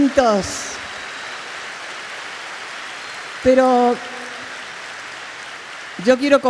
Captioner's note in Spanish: Aplausos